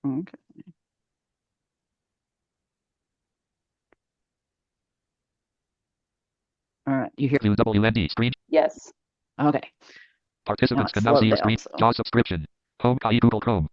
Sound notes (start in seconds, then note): 7.0 high speed audio plays